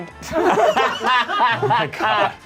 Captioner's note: laughs